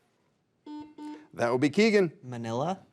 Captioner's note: buzzer beeps